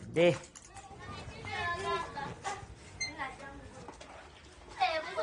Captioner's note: children chattering